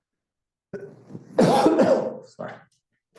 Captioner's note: coughs